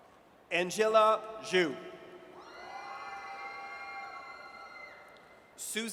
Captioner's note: audience cheers